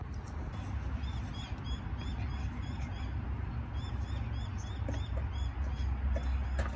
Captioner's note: quiet background noises of birds, dog panting, and Alexis's device